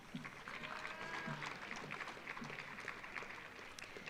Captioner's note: audience applauding